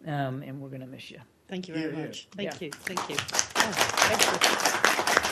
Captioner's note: applause